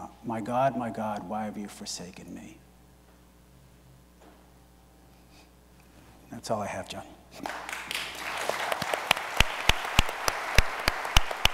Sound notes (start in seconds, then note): 7.4 audience applauds